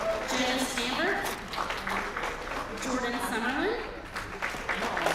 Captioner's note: applause